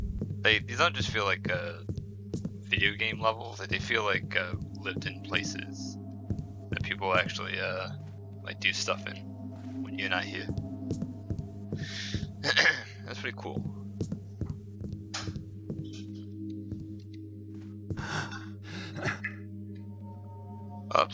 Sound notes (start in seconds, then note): 12.4 coughs; 18.6 Garrett heaves, like he's out of breath